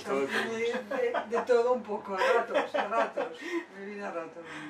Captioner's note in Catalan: Risas